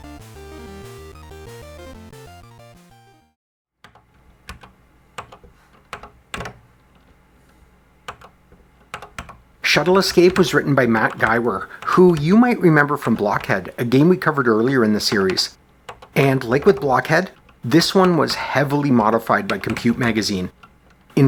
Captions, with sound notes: [typing on a C64 keyboard] Shuttle Escape was written by Matt Giwer, who you might remember from Blockhead, a game we covered earlier in this series. And like with Blockhead, this one was heavily modified by COMPUTE! Magazine.